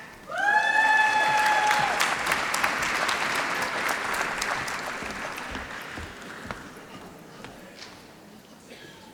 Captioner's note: applause